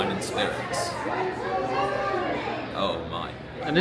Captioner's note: people chatter in background